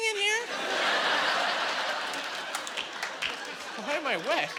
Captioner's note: laughing